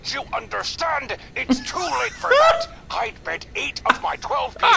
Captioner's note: laughs